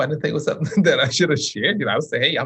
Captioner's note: chuckles